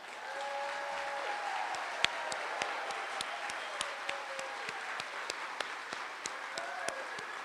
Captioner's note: applause